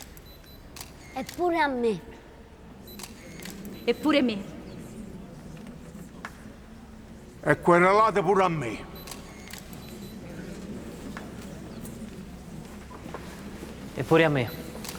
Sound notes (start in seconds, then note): 5.4 crowd murmurs surprised; 8.9 cameras clicking